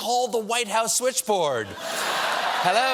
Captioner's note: laughter